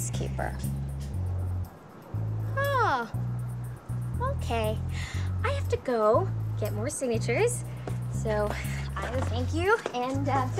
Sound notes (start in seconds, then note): none